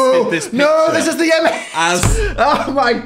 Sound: laughs

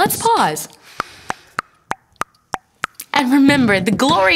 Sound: tick-tock beatboxing

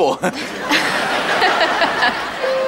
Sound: miranda chuckles

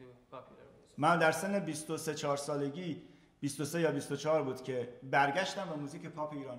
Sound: speaking in farsi

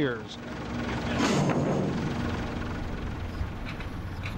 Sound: metal clangs

